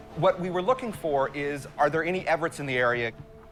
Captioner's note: none